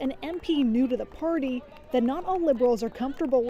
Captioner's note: chants